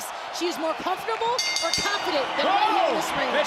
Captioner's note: bell rings